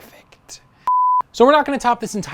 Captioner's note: beep